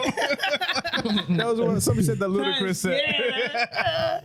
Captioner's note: laughing